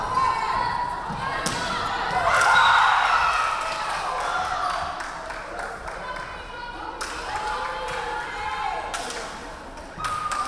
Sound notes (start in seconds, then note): 1.1 crowd cheering; 2.4 referee whistling